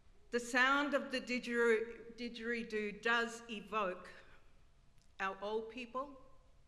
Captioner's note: none